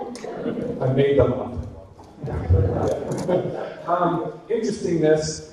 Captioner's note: audience laughter